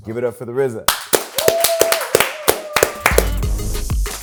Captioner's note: cheering; hip-hop music